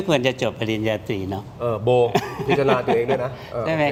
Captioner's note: laughs